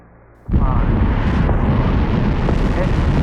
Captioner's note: engines ignite